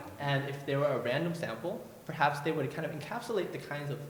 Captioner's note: none